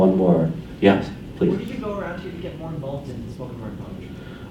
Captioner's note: voiceover